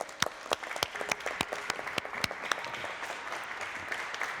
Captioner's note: people clapping